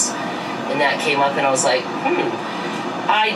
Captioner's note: hums